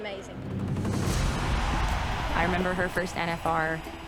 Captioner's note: crowd cheering